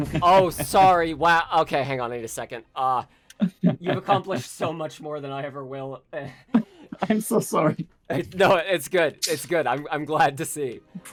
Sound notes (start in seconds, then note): 3.3 laughs